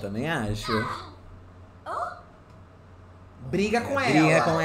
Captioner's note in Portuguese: sims conversando